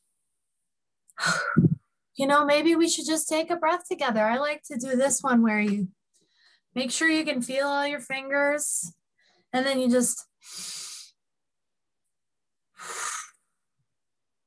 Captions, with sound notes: You know, maybe we should just take a breath together. I like to do this one where you make sure you can feel all your fingers, and then you just-- (inhale, exhale)